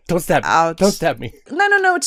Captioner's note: laughs